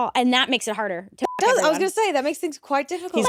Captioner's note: beep